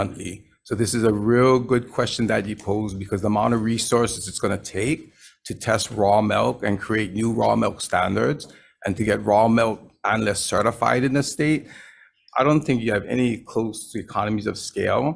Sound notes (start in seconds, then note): none